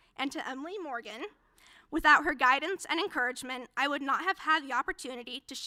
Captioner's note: none